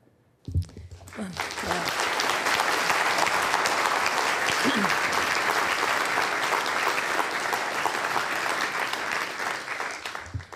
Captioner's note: applause